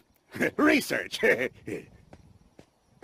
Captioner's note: laughs nervously